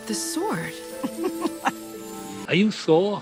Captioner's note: giggles